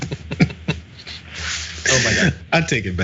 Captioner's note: laugh